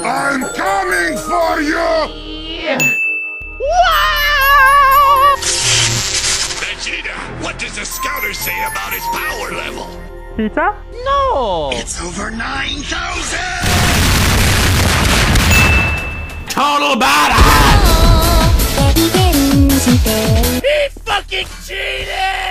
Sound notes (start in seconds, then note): 13.6 explosions; 15.5 ding